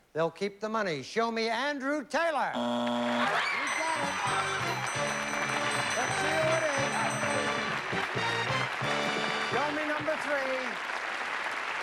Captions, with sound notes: THEY'LL KEEP THE MONEY. SHOW ME ANDREW TAYLOR. YOU GOT IT! [CHEERING AND APPLAUSE] LET'S SEE WHO IT IS. SHOW ME NUMBER 3.